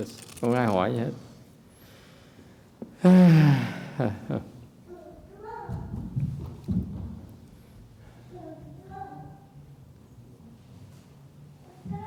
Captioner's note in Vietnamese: sigh